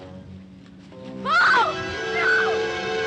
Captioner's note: screaming